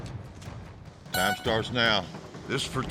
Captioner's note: horn blows